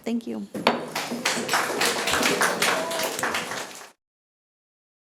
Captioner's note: audience applauding